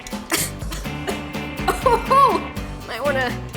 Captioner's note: bright music; coughing